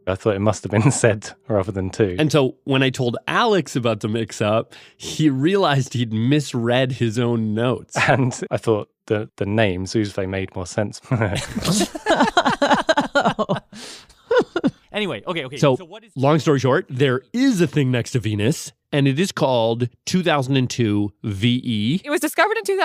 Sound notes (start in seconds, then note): 11.1 laughs